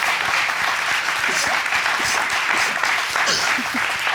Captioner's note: audience applauding